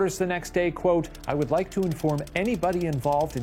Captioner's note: typewriter clicks